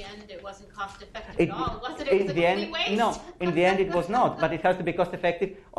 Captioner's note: professor speaking